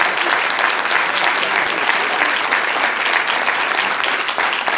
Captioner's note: applause